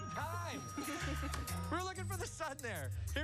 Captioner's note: laughter